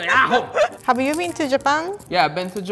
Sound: speaking in foreign language

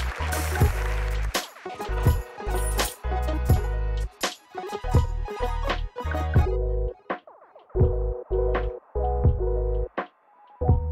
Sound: applause

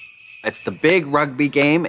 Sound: sleigh bells jingling

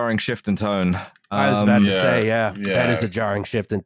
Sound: keyboard tapping

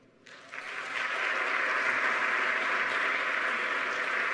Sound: audience clapping

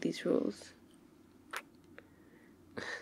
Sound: kiss

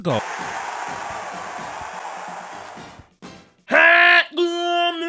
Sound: audience cheers

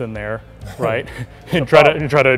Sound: both chuckling

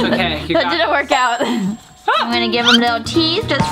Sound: laughs

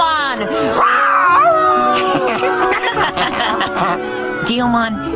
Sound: growling, howling, laughing

